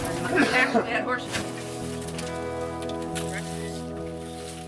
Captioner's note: coughing